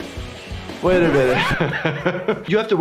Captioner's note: record screeching; laughing